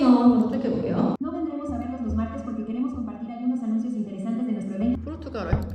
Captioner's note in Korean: It’s automatically dubbed into Spanish in a woman’s voice